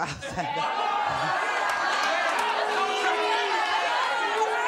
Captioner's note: audience jeers